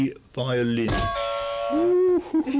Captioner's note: buzzer